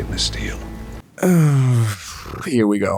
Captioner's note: sigh